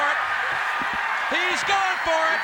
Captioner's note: crowd cheering